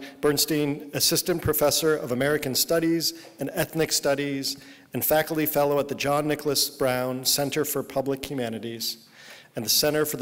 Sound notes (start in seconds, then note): none